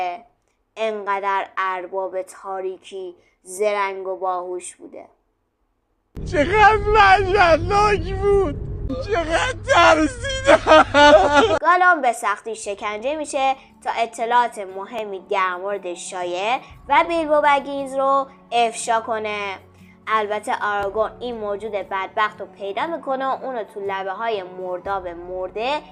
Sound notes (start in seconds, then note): 9.0 crying sound